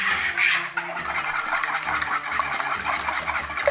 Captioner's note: whisking mixture; soft music